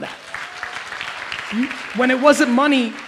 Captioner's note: audience applauds